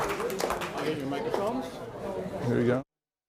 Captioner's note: applause